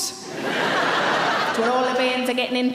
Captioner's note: audience laughing